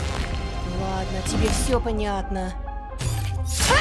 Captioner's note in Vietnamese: Tiếng Nga